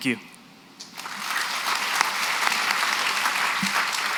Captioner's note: applause